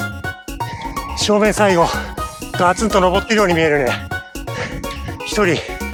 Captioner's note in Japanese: 鼻息